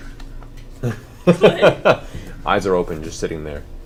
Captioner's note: all laugh